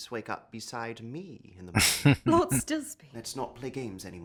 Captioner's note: chuckling